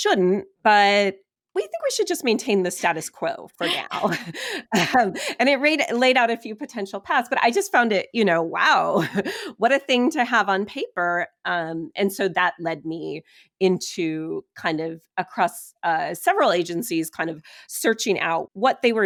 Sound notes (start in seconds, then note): 3.6 laughing